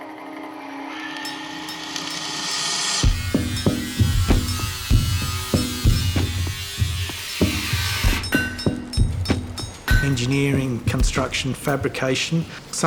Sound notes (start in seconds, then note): 0.8 drill whining, Grinder whirring; 3.3 steady percussive music; 8.3 hammer clanging